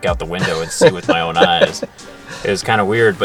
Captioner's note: laughing